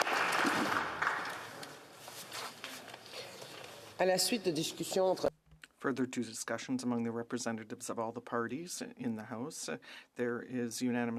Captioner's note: applause